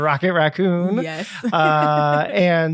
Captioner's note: giggling